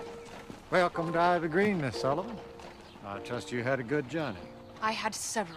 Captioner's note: none